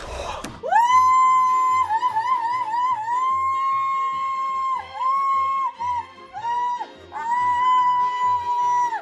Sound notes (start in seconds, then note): 0.6 continuous cheering, whoo-hooing